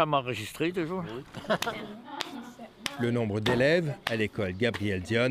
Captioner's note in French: rire